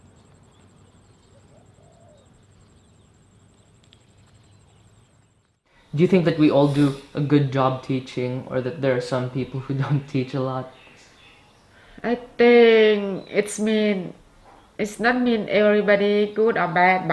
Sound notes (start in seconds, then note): 9.9 chuckles